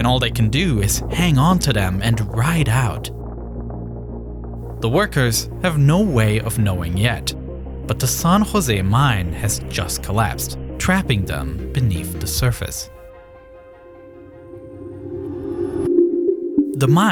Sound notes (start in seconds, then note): 3.5 rocks clacking; 13.2 intense music continues